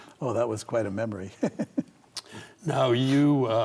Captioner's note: laughs